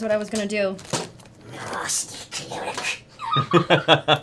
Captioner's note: Gollum voice